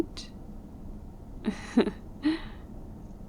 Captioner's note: laughs